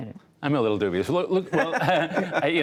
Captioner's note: laughter